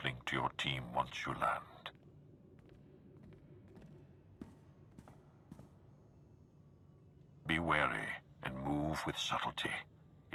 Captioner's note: wind howling